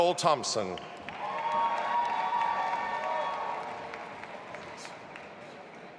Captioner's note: audience applauding and cheering